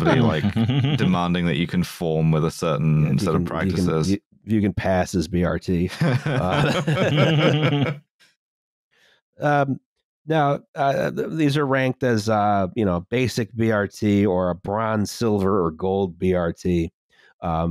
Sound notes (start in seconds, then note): 5.8 laughter